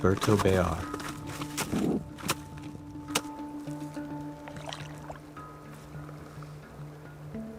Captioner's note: crunches boot into ice, drifter gently splashes in water